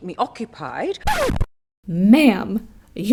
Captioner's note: record scratch